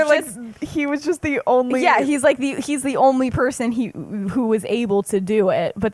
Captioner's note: laughs